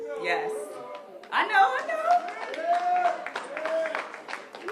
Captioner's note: applause